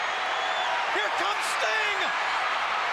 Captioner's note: crowd cheering